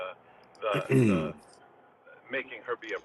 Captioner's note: berdehem